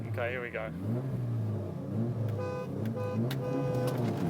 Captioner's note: revs Engine; Moog honking horn